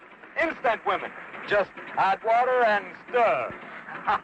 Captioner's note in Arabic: يضحك